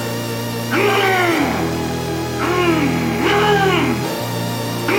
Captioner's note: monster yells